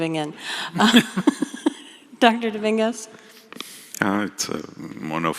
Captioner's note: laughter